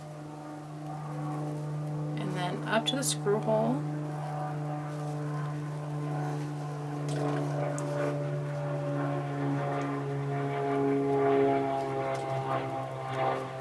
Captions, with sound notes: and then up to the screw hole. (airplane engine rumbles)